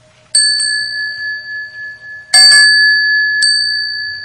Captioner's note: bell chiming